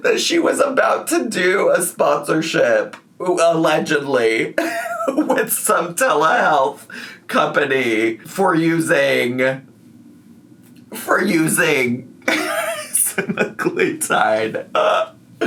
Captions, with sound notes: that she was about to do a sponsorship allegedly with some telehealth company for using... For using (laughs) semaglutide.